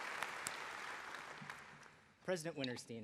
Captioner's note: applause